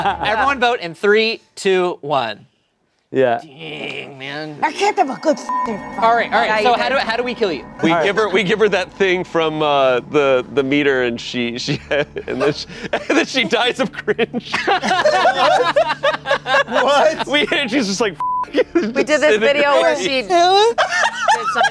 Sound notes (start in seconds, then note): 5.4 beep; 15.1 everyone laughing; 18.2 beep